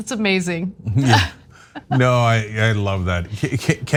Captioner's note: laugh